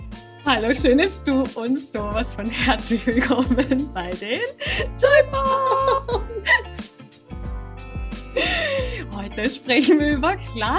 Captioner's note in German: lachen